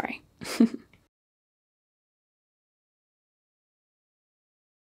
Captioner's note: gently chuckling